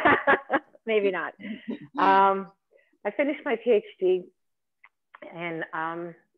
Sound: laughing

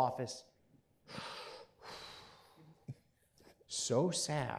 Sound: puffing

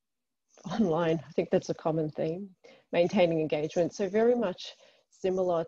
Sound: reads and laughs

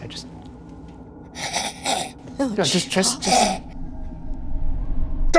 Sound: snarling

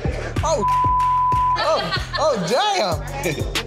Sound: beep

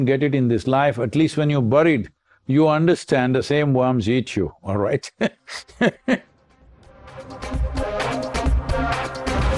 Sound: laughs

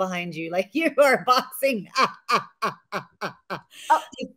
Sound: laughs

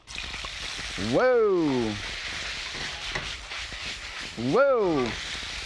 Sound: oil sizzling

